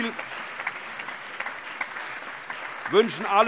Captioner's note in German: Allgemeiner Beifall